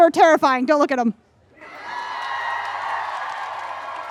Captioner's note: crowd cheers in agreement